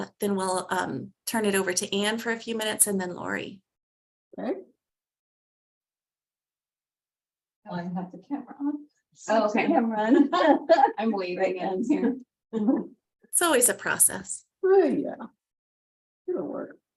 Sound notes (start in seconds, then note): 9.7 laughs